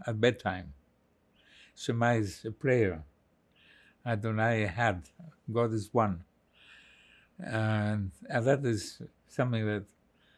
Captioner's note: hebrew